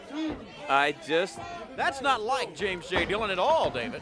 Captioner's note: crowd chatter